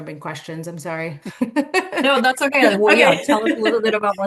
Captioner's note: chuckling